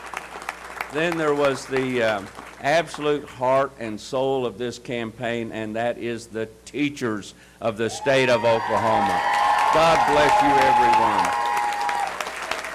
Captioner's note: applause